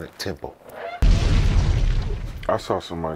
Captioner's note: exploding